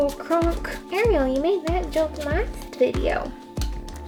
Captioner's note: whiny